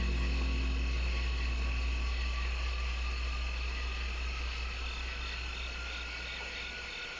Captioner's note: intense music; insects chirp